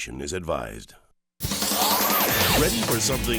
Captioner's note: screen whooshes; upbeat music